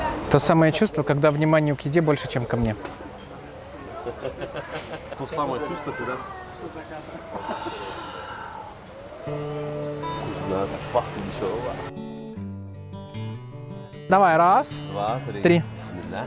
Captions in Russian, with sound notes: То самое чувство, когда вниманию к еде больше, чем ко мне То самое чувство, когда *нюхает* Вкусно так пахнет ещё Давай, раз, два, три